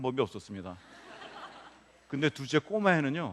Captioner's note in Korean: 웃음